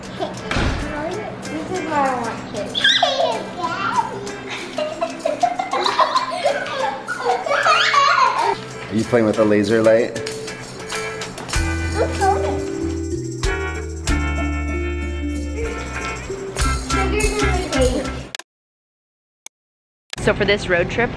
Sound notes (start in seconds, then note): 7.0 squealing; 10.2 laughing; 18.4 funky music